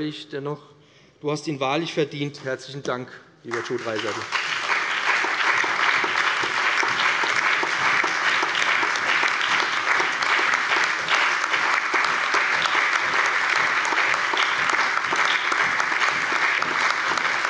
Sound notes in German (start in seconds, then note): 3.4 Allgemeiner Beifall